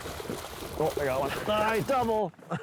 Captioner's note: water splashes